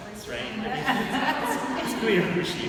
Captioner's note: audience laughing